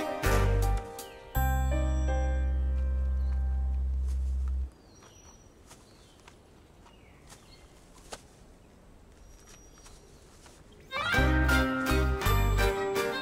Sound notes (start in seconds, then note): none